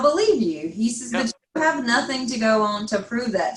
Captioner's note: faintly speaking